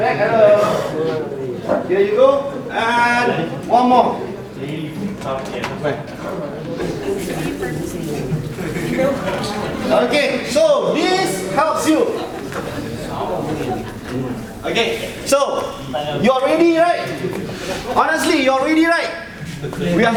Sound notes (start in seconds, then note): 7.3 audience chattering faintly